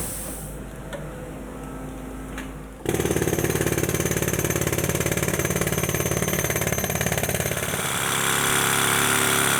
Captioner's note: a small electric or pneumatic hammer